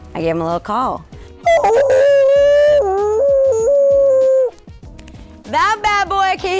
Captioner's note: impersonating a whale